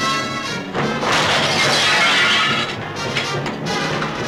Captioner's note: glass shattering; dramatic music